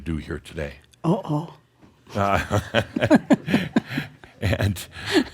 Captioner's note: they chuckle